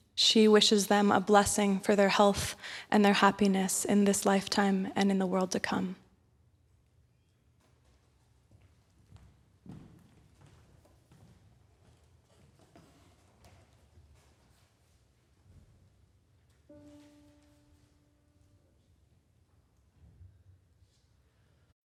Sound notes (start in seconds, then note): 6.6 silence, rustling of papers; 16.7 tuning note; 19.7 silence